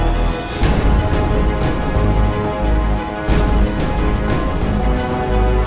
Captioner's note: bike sounds warning tones regarding air toxicity levels